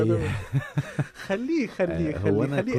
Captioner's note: laughter